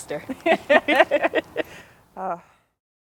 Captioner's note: laughter